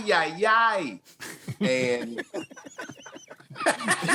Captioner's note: laughing